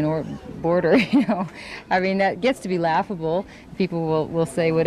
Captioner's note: laughs